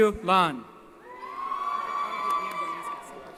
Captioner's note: cheering